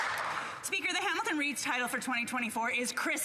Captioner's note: some Applause